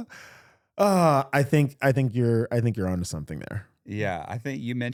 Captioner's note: sighing